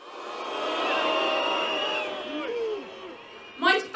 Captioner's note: whistles